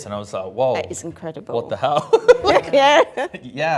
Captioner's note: laughs